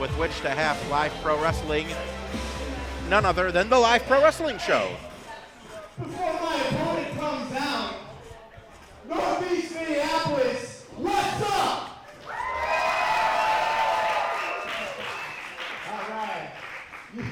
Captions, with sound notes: from which to have Live Pro Wrestling, none other than the Live Pro Wrestling Show! - Before my opponent comes out, Northeast Minneapolis, what's up?! (cheering) All right.